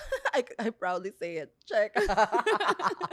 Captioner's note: laughs